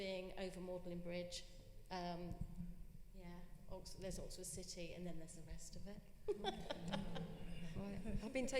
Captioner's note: laughter